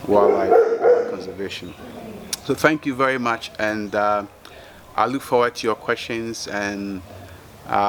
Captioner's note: dog barking